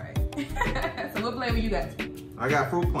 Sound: laughing

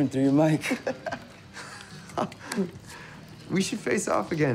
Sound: laughing

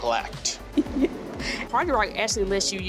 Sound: laughing

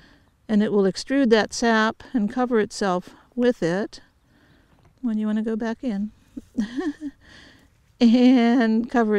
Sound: chuckle

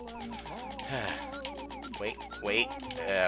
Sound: sigh

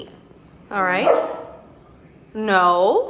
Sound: Gus barking

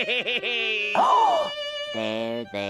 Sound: gasping

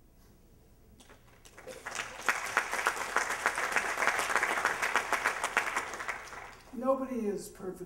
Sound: applause

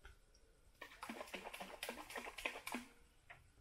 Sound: sound of splashing water

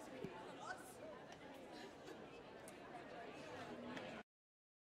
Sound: crowd murmuring

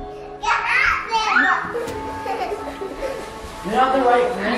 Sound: kids screaming and laughing

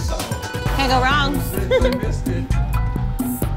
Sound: giggling; energetic pop music

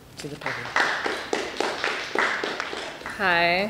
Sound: applause

